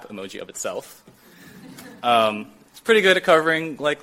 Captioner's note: light chuckling